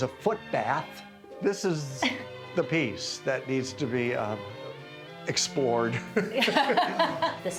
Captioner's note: laughs